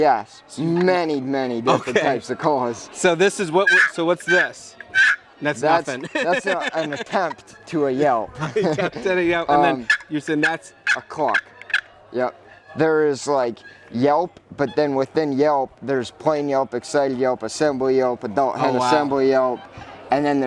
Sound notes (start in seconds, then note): 3.5 turkey sounds; 5.6 laughing; 9.6 turkey sounds